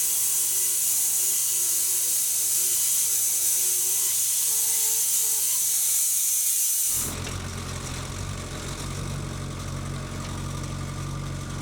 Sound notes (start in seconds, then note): 7.3 engine revving